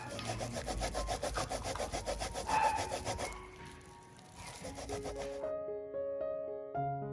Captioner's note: my neighbor's dogs are barking